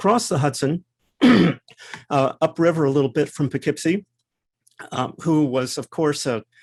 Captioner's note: cough